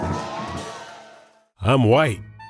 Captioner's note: crowd cheers